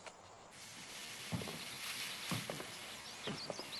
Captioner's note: steam hissing